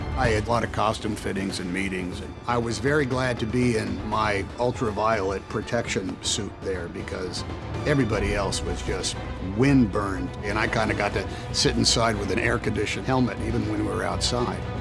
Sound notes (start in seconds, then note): none